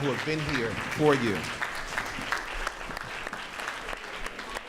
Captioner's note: audience claps